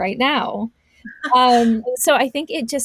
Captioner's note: laughs